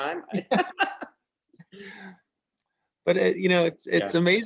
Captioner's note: laughs